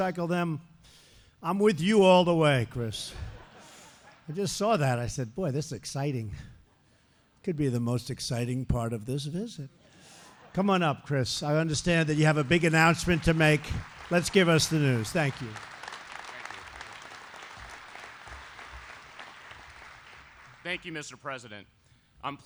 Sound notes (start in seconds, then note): 3.0 laughter; 10.1 laughter